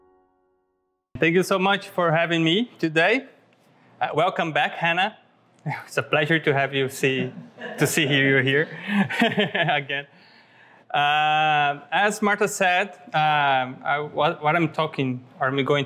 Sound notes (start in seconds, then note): 7.1 laughs